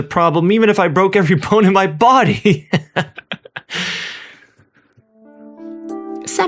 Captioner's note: laughter